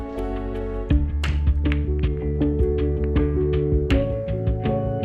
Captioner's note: balls colliding